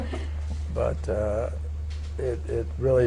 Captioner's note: laughter